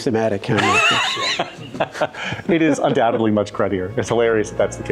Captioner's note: laugh